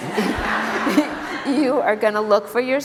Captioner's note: laughter